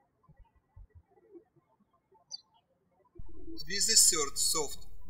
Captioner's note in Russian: птички щебечут